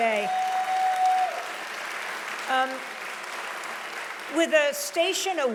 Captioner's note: audience applauding loudly